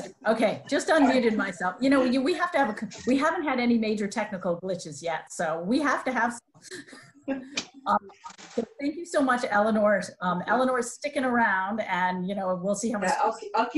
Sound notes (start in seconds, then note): 7.1 women giggling